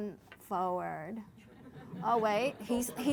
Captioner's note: laughter